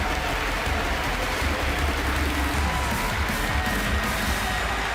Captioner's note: cheers and applause